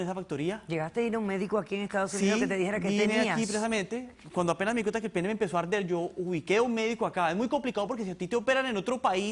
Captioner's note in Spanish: none